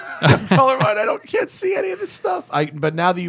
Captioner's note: laughter